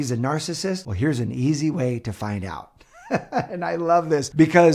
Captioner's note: chuckles